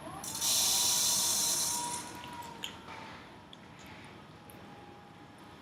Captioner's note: whirring noise